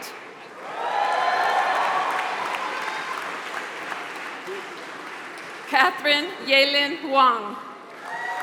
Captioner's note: applause; applause